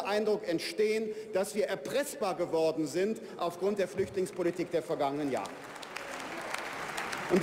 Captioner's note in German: Beifall bei der FDP